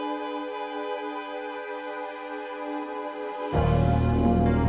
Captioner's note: none